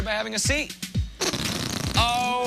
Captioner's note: farting noise